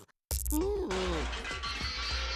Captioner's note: groaning